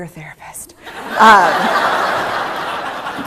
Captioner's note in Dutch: Gelach